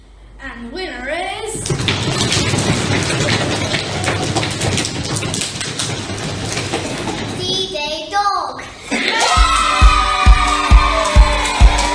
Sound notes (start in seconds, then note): 1.6 knee drumming and foot stamping …; 8.9 cheering and clapping!